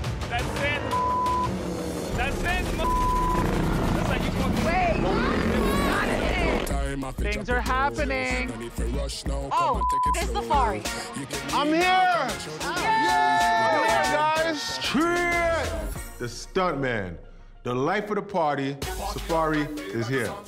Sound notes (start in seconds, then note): 0.0 dramatic music; 1.0 beep; 4.4 cheering; 6.2 rap music; 9.7 beep; 12.6 cheering